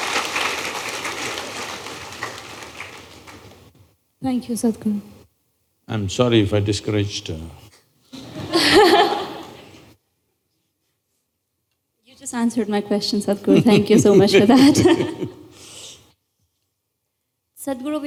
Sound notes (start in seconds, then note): 0.0 laughs; 0.0 applause; 8.1 laughter; 13.4 Sadhguru Laughs; 16.1 laughs